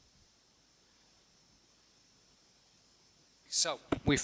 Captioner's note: silence